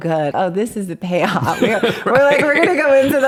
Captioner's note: laughs